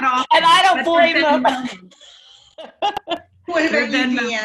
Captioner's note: laughs